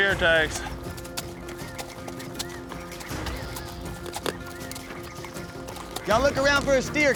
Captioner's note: hoof beats